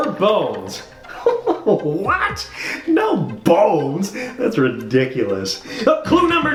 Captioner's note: laughs